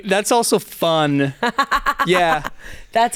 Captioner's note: laughs